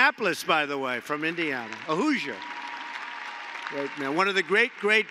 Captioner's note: applause